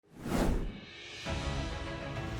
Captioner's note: woosh